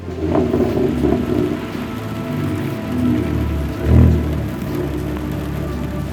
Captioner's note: car rumbling; soft music